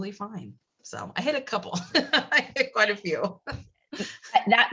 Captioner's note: laugh